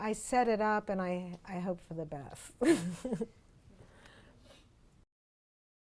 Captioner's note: laughs